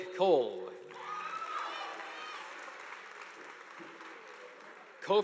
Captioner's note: audience applauding